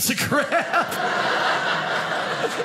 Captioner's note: audience laughing